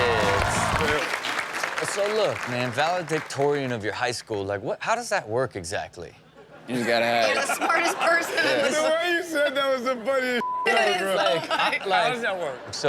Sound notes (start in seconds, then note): 0.0 audience applauding; 10.4 beep